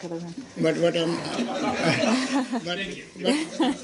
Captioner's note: laughter